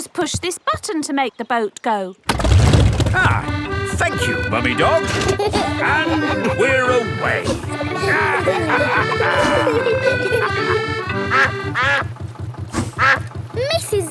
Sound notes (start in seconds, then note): 2.8 boat engine revs; 5.4 kids giggling; 8.3 all laughing; 11.4 quacking